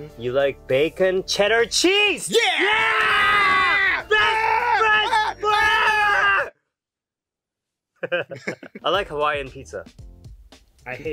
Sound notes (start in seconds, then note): 8.0 laughs